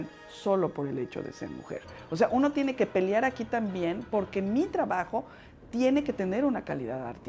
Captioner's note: speaking Spanish